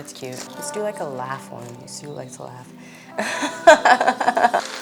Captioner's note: laughs